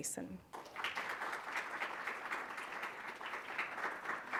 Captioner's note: applause